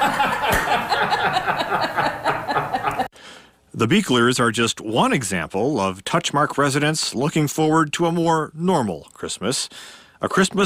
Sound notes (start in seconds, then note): 2.9 laughs